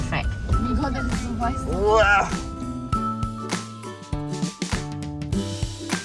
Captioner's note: speaking German; background music